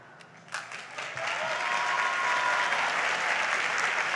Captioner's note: audience applauds